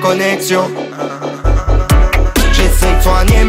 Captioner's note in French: hin hin hin